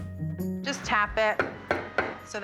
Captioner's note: taps pan on counter